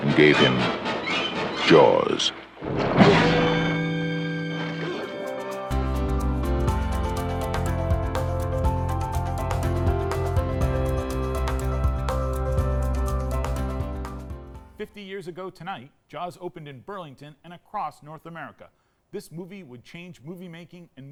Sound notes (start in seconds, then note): 2.3 ominous music continues; 5.1 swimmer gasps; 6.0 upbeat music